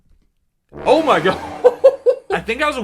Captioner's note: laughs